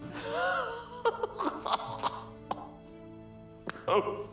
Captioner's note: laughing